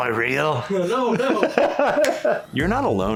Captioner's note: laughs